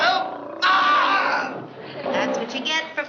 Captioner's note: moans